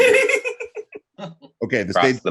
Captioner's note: giggles